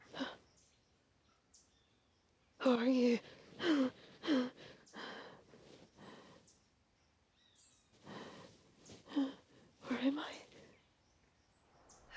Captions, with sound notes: (Brigit gasps) - Who are you? (Brigit panting) Where am I?